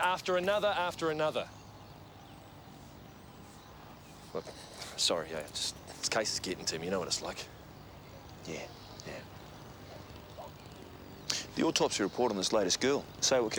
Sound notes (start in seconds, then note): none